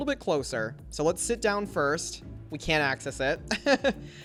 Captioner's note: laughs